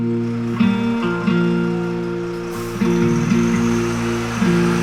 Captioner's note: bus engine rumbling; slow music